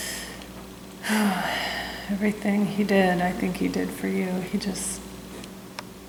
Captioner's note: sigh